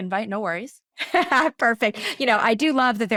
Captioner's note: laughing